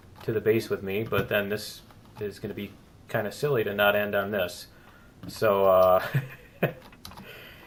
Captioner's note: laughs